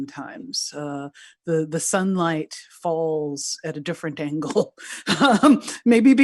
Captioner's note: laughing